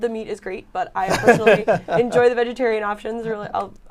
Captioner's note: laughter